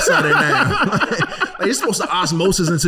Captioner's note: laughing